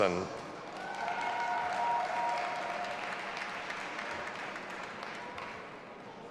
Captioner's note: audience applauding and cheering